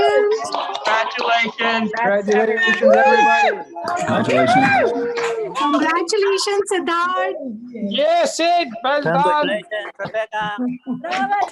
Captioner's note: applause